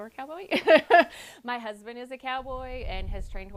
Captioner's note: laughs